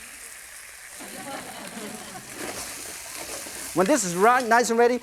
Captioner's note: crowd laughs